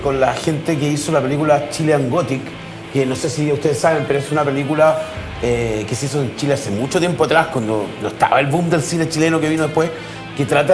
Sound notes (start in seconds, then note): none